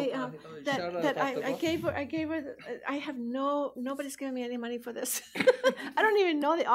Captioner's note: laughs